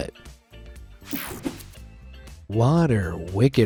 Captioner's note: screen whooshing